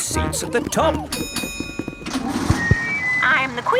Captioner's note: bell dings